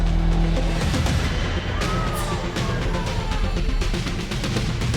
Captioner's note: tense music; patrons exclaiming